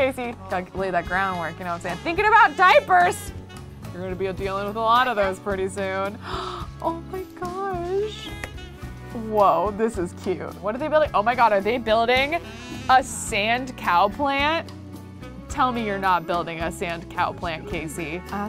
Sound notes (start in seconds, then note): 6.2 gasps